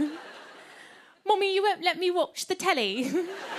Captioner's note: English accent; laughter